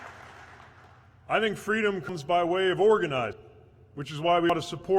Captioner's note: cheers/applause